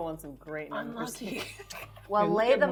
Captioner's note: laughing